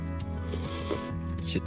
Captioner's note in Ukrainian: Сьорбає